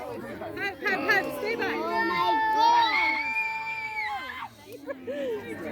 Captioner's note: chatter and kids screaming